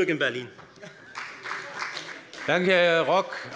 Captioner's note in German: Beifall bei der FDP